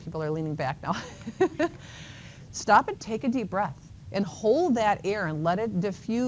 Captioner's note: chuckles